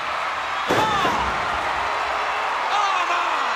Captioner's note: crowd cheers